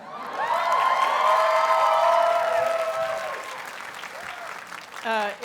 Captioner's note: audience cheers and applauds